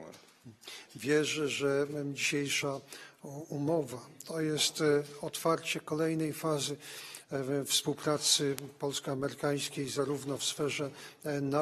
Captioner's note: speaking polish